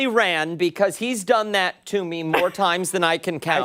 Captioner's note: laughter